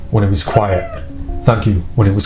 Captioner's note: squeak